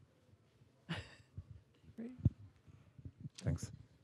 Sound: laughing

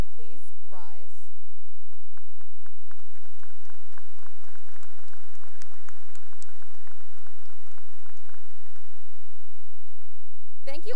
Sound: cheering and applause

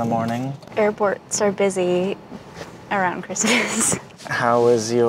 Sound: laughing

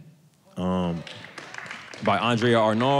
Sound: audience claps

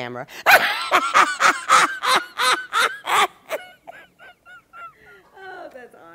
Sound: laughter

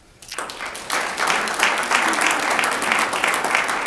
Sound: audience applauds

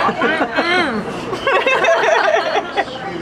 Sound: laughter

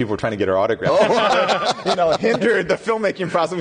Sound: laughing

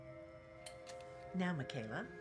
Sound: clicks

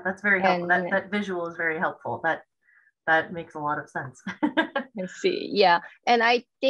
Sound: laughs

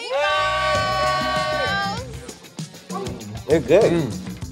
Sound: cheering

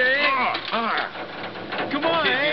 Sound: gas hissing

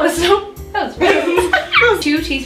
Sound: giggles; laughs

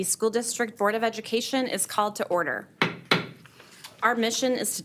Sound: strikes gavel

